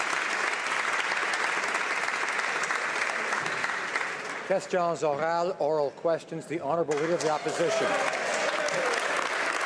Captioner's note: some Applause